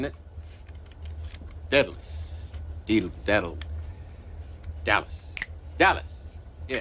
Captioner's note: fingers snap